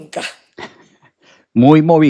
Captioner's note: laughs